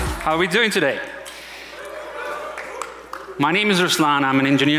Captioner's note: audience cheering